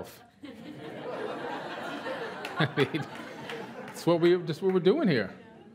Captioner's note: laughter